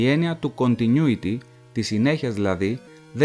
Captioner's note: in Greek